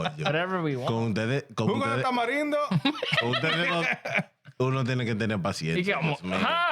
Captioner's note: speaking In Foreign Language